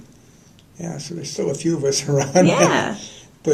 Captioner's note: laughter